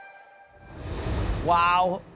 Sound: transition whooshing

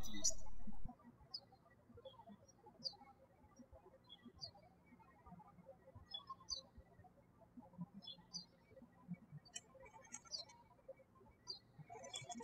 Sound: birds chirping

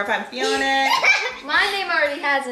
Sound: laughing

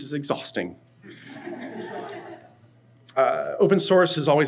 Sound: audience laughs

